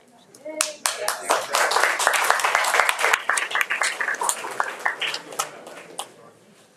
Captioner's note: audience applauding and cheering